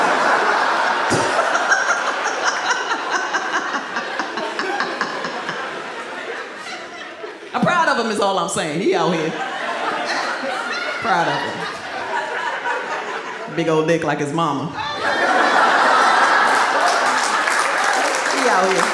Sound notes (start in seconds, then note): 0.0 audience laughs; 1.0 laughs; 14.8 audience laughs